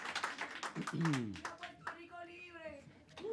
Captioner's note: audience Shouting